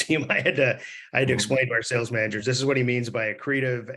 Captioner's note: laughs